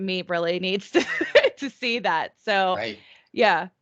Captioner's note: chuckling